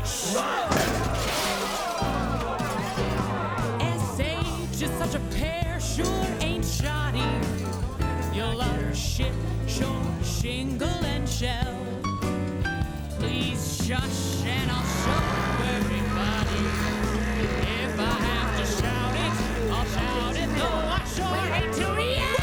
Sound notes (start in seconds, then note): 0.3 waiter trips, shouts, glass smashes; 14.9 vacuum humming loudly